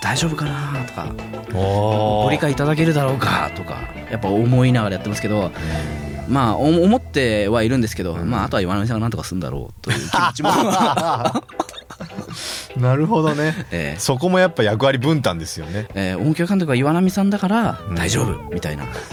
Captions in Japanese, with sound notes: おお、 ご理解いただけるだろうかとかやっぱ思いながらやってますけど、 ま、思ってはいるんですけど、ま、あとは岩さんがなんとかすんだろうという気持ちも [笑い] なるほどね。 そこもやっぱ役割分担ですよね。 え、大き監督は岩波さんだから大丈夫みたいな。